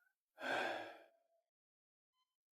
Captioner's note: sigh